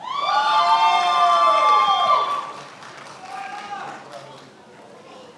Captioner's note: attendees applauding and cheering